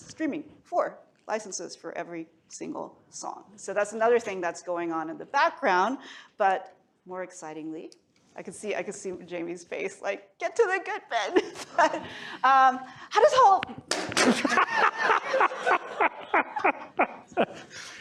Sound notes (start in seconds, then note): 13.8 clicker thuds; 15.8 laughter